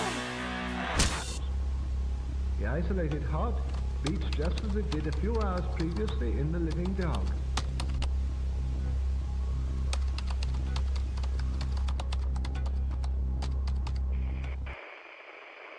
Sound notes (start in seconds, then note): 7.5 typing; 14.0 Static